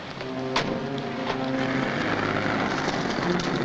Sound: car door slams shut; dramatic music

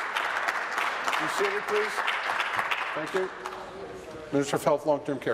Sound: applause

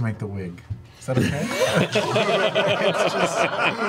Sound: all laugh

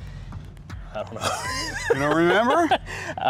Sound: laughs

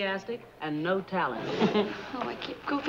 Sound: laughs

